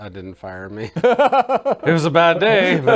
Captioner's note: laugh